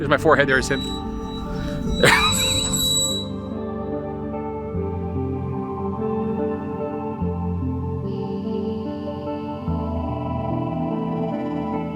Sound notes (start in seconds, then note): 2.0 laughing; 4.4 soft music continues